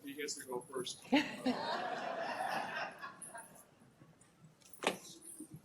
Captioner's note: laughter